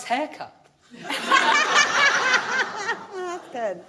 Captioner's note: audience laughing